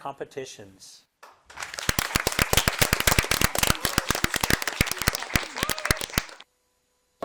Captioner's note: audience applauding; teams chattering